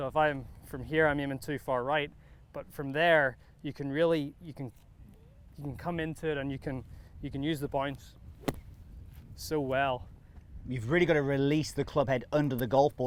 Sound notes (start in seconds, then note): 8.4 golf club thwacking